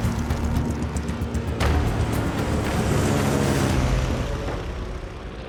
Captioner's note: plane engines roaring overhead